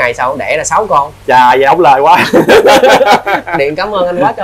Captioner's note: laugh